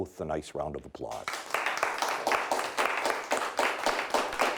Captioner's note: clapping